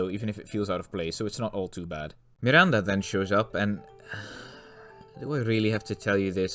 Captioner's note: sigh